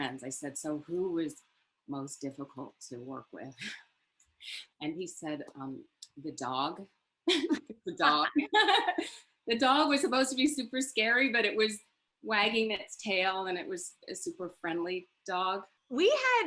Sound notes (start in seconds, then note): 3.8 chuckles; 7.2 chuckles; 8.9 Sarah laughs